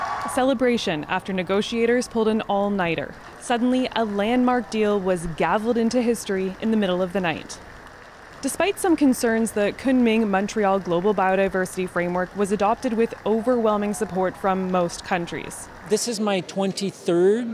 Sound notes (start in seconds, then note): 2.1 cheers and Applause